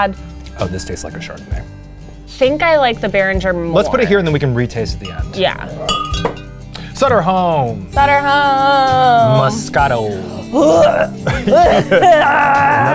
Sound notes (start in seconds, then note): 3.8 bottles clinking; 10.2 gagging